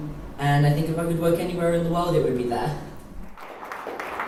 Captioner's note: applause